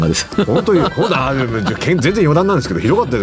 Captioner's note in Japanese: 笑い